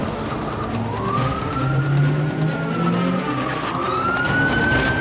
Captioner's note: police sirens